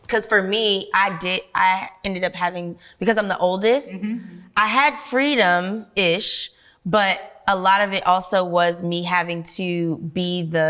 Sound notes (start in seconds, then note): none